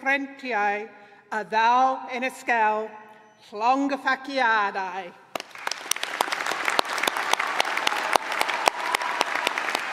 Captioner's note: applause